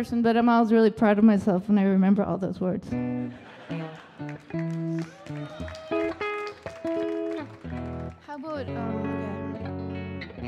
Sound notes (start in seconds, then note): 3.2 audience laughing; 3.6 audience applauding and cheering; 10.2 light guitar music